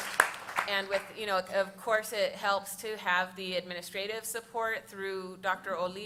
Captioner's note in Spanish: Aplausos